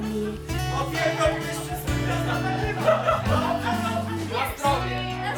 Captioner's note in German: sprechen Polnisch; lautes Lachen